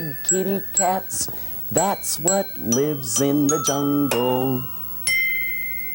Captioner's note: ding